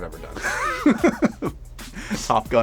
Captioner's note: laughs